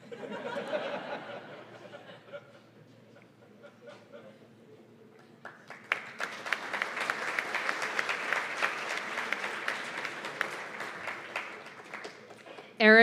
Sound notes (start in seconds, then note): 0.0 audience laughing; 5.2 applause